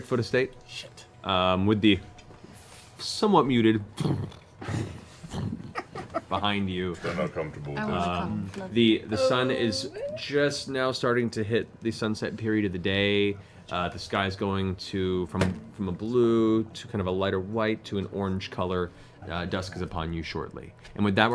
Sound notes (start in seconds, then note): 3.7 stomping